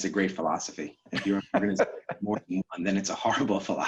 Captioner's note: laughing